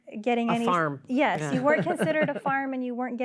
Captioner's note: laughter